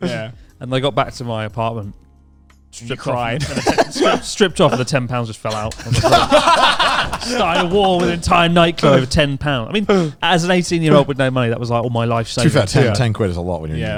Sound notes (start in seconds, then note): 5.5 all laughing loudly